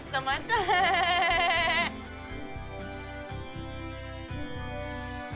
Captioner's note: laughs annoyingly